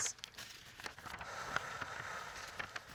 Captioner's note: exhaling